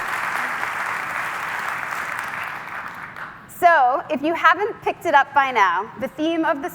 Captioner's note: applause